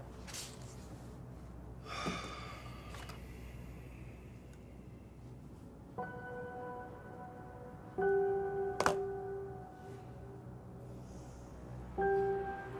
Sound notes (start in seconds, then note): 1.9 Ron sighs; 6.7 suspenseful music